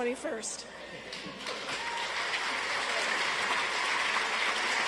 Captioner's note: audience applauds